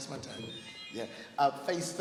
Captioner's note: ringing